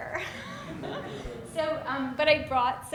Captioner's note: audience laughing